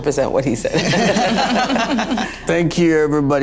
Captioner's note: laughter